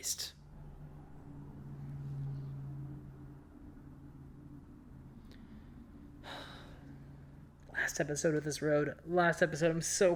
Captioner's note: A loud car drives past my bedroom